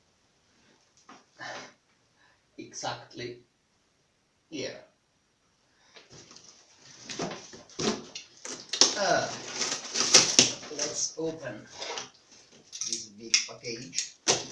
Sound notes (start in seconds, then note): 5.4 opening the box noise; 8.8 opening the box noise